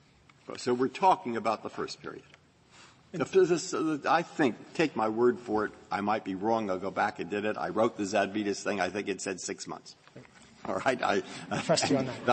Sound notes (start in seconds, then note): 11.2 laughter